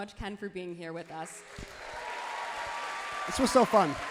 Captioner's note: crowd claps and cheers loudly